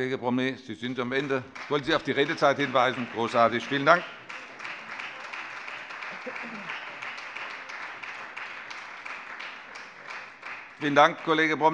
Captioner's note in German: Beifall Freie Demokraten